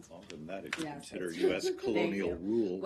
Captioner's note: laughter